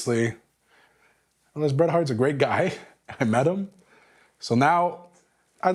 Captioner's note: laugh